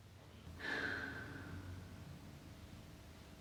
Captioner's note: Kate sighs